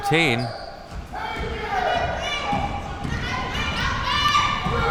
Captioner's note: spectators shouting